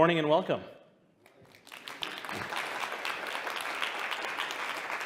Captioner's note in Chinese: 掌聲